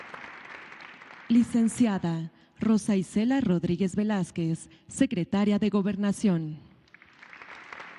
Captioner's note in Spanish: aplausos; aplausos